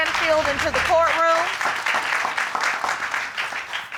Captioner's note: audience clapping